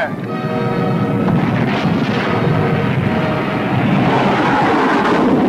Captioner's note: weapons firing; plane engines roaring